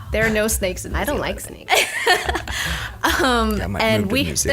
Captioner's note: laughs